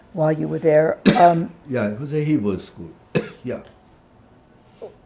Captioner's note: coughing